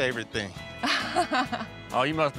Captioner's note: chuckling